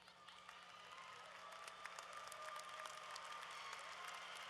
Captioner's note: applause